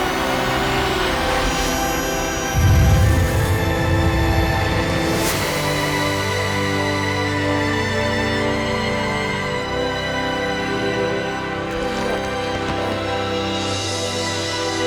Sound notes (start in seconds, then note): 11.4 groaning